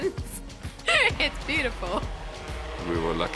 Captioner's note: chuckling